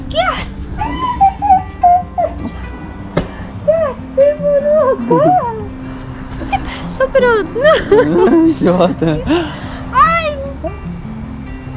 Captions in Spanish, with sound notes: ¿Qué hacés? ¿Qué hacés boludo acá? ¿Qué pasó pero no...? [Risas] Ay